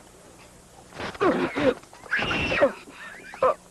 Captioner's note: children screaming